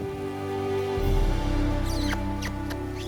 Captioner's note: smacking lips